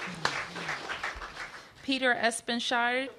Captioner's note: applause